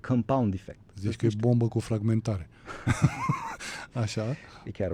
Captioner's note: laughter